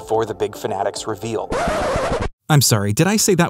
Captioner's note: record scratch sound effect